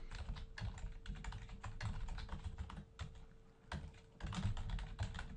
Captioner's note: typing on-screen